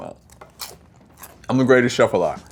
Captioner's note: food crunching